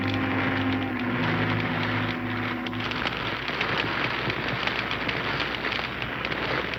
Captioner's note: ominous orchestral music; fire crackling